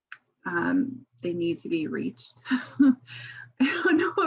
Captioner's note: chuckles